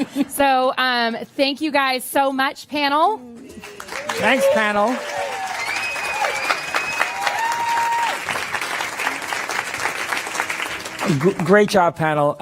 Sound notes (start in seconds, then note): 0.0 laughter; 3.5 applause